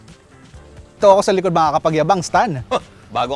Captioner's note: scoffs